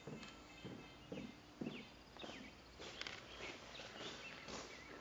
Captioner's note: footsteps on stairs